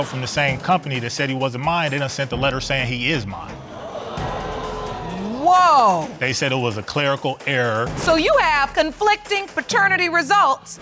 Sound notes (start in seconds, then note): 3.6 audience gasp